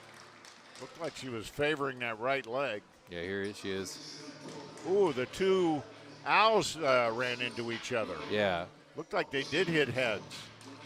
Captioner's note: applause